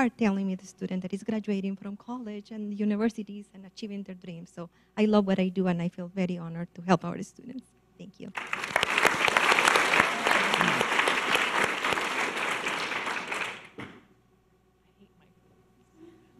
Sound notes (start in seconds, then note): 8.3 audience applause